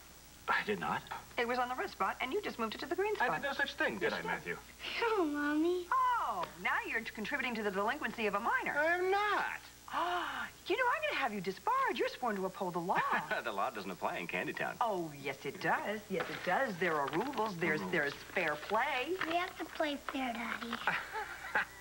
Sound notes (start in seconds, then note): 10.0 nora gasps